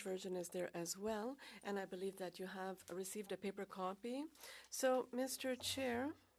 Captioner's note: speaking French